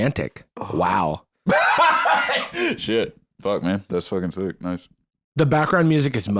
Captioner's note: laughs